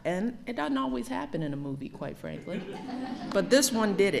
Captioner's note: laughter